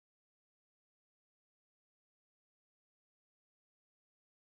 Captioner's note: none